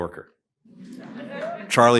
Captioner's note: laughter